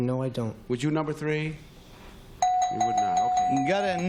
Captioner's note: bell